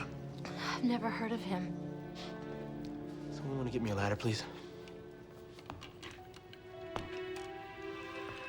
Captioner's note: none